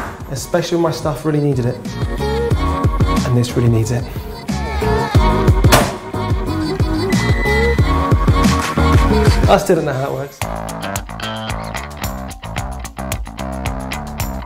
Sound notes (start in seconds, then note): 7.0 washing machine bleeping; 10.8 upbeat funky music